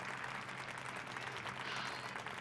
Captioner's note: crowd applauding